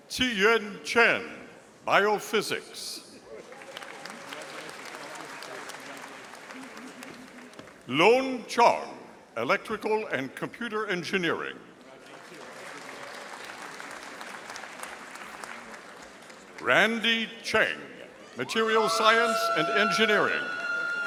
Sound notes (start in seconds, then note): 3.4 audience applauding; 12.0 audience applauding